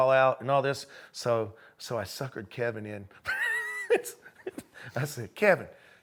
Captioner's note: laughs